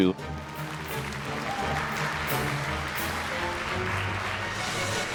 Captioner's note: audience applauds